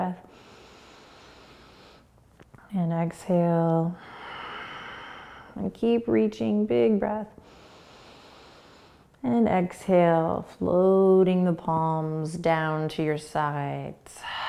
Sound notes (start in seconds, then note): 0.3 inhaling; 4.0 exhaling; 7.4 inhaling; 14.2 exhaling